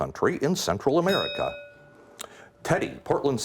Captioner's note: bell ringing